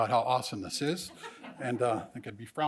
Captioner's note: laughs